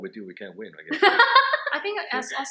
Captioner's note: laughs